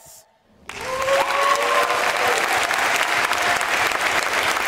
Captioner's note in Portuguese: Aplausos